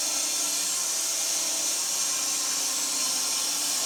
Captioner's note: saw whirring